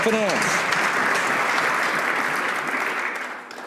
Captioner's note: some Applause